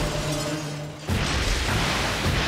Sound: crashing

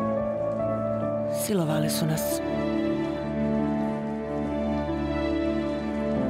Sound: woman speaking in foreign language

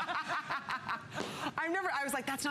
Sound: laughter

